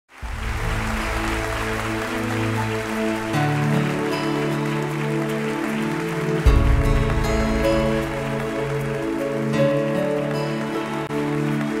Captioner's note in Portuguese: Palmas